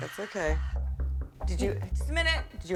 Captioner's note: knocking